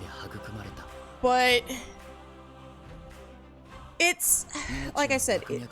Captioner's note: sigh